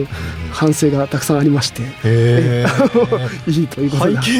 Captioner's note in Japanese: 笑い